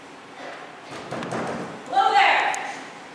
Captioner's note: knocking